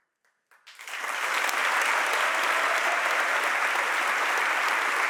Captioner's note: audience applauds and cheers